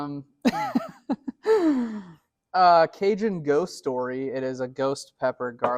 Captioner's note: laughs